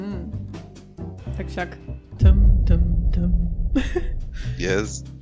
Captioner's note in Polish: śmiech